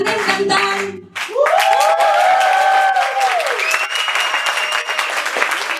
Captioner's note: song ends; cheers and applause